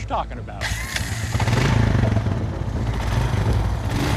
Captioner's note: engine revs